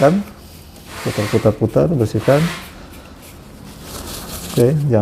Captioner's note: tissue noise